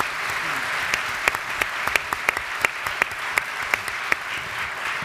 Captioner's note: audience applauds